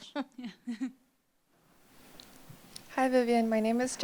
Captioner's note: laughs